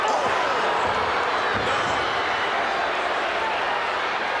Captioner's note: crowd booing